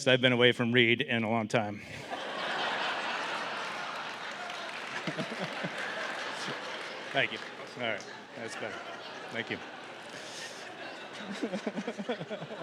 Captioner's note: laughter, applause